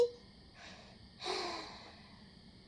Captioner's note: SUNAKO sighs